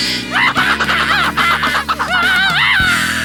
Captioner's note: squirrel chattering; screaming